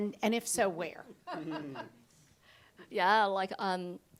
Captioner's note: audience laughs